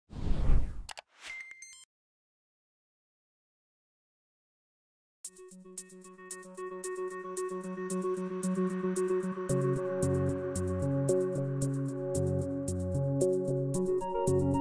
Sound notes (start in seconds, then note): 0.8 click; 1.0 beeping; 5.3 inspirational techno music